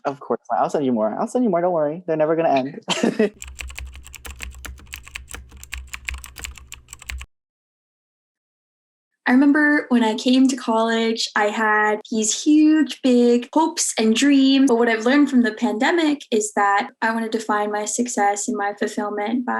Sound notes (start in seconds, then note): 3.0 laughs; 3.3 keyboard clicking